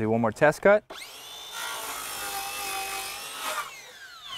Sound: saw whining, no additional audio

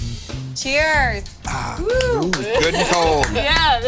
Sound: clapping

